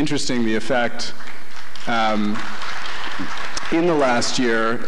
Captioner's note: applause